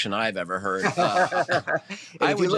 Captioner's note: laughs